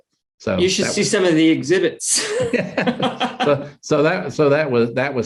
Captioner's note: laughs loudly